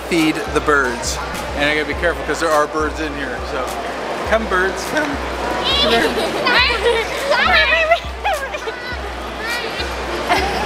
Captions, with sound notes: I'm gonna feed the birds, and you gotta be careful 'cause there are birds in here. Come birds, come. (bird noises)